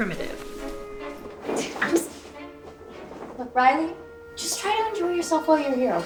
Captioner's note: scoffs